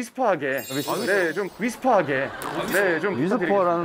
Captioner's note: whisper